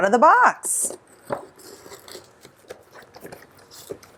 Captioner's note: box rustling